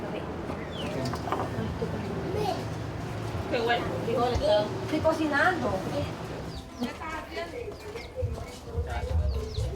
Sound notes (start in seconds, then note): 1.7 speaking in foreign language